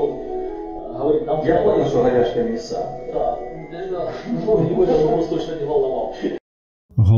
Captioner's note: laughs